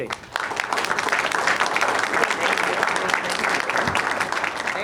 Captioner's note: audience applauding